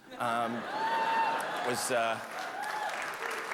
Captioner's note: hoots and cheers